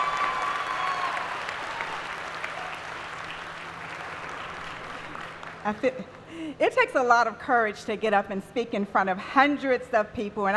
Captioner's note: applause